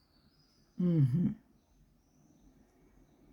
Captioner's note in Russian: откашливается